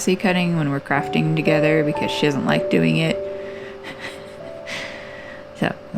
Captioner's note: laugh